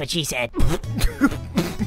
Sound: coughs

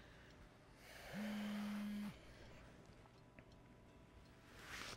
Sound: cellphone buzzing

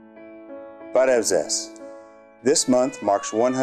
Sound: armenian

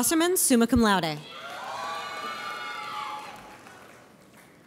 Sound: audience cheers

